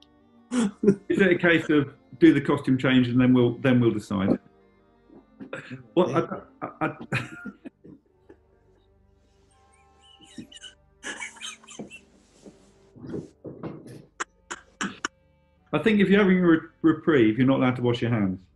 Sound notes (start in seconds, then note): 5.1 laughing; 7.8 stifling laughter